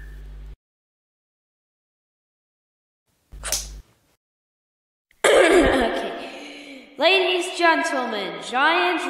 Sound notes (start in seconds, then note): 5.2 coughing